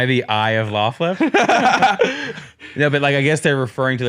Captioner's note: laughs